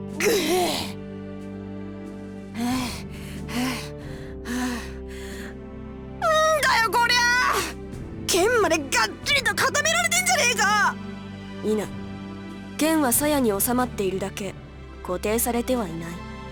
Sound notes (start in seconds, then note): 0.1 weary groan; 2.5 huff; 2.6 pant